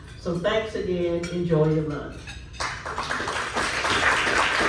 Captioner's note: clapping